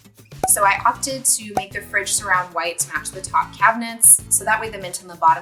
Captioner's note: cork pops